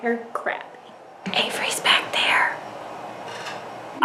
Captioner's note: whispers